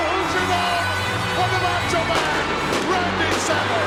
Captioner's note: fireworks erupt